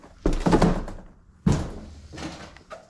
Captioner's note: door opens